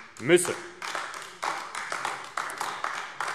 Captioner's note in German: Beifall AfD